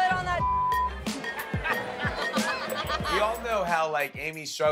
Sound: laughing

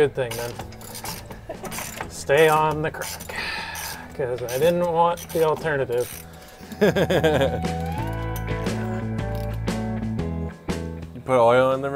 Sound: laughs

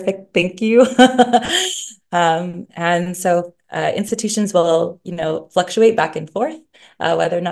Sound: laughs

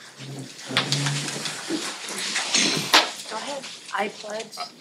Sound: rustling

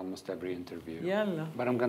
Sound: speaking in foreign language

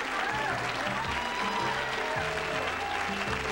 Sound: cheers

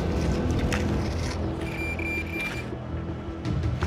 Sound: beeping

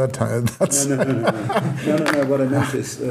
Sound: laughing

